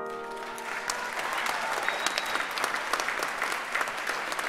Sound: audience applauds

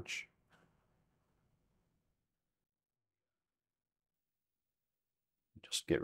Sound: silence

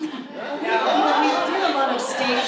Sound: audience laughs

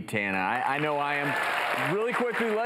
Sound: crowd cheers

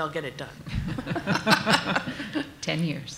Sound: laughter

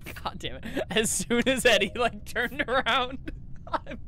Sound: laughing; laughing

